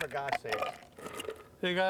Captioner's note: ice bumping